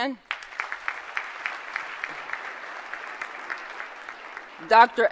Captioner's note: applause